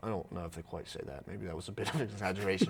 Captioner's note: laughing